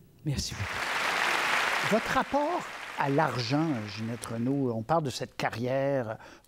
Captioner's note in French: applaudissements